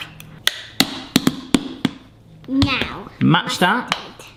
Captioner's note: ketchup bottle banging